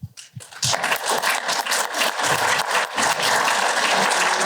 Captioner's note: applause